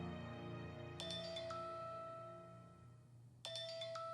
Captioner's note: phone ringing